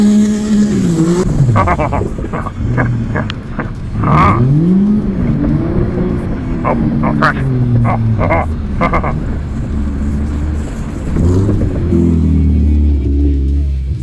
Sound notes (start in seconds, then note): 0.1 speaking foreign language; 0.5 laughing; 1.4 engine revving; 6.5 laughing; 9.8 engine revving; 13.4 laughing